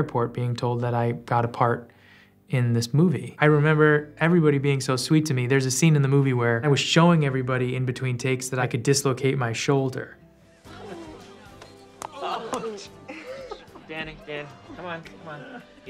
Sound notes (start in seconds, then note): 10.7 people laughing